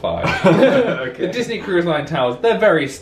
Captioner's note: laughs